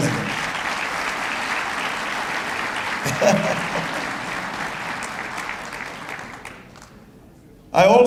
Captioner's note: applause